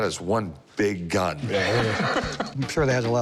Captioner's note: laughs